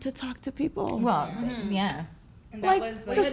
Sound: women agreeing

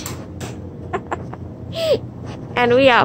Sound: laughs

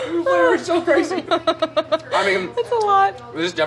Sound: laughs

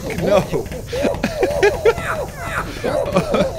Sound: laughs

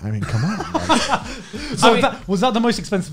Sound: laughing

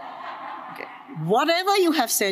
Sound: audience laughs

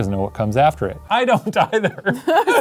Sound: laughing

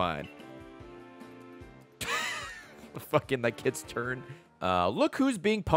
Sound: laughs

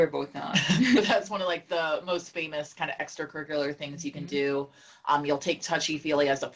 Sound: laugh

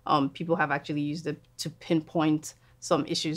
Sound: none

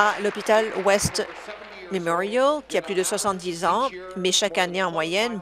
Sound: applause

